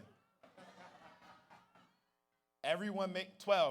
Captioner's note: audience laughs